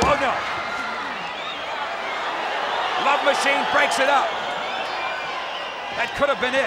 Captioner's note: applause